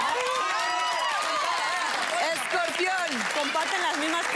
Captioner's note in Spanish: Gritos y exclamaciones